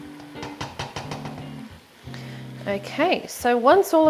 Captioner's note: spoon clatters